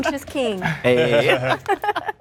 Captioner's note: laughter